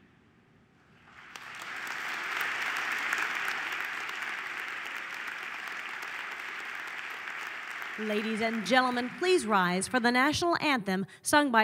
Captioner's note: applause